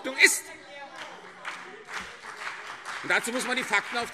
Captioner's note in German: Beifall CDU und BÜNDNIS 90/DIE GRÜNEN - Widerspruch SPD